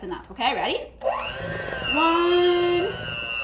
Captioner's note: mixer whirring